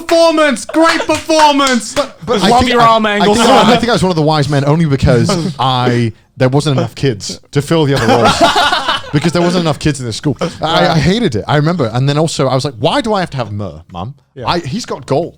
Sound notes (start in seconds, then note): 0.6 laughing; 1.8 hands clapping; 10.1 laughing